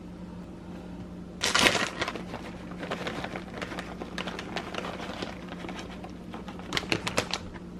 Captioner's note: plastic crinkling